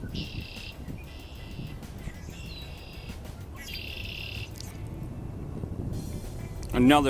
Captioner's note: red-winged Blackbird calls and another bird whistles in background